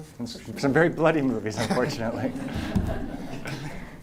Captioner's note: laughter